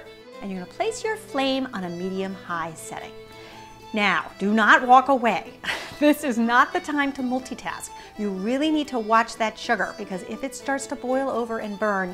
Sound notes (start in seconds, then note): 5.6 laughs